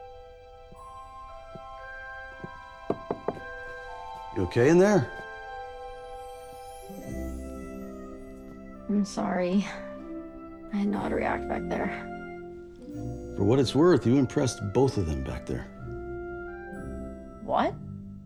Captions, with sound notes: [knocks] You okay in there? I'm sorry. I didn't know how to react back there. For what it's worth, you impressed both of them back there. What?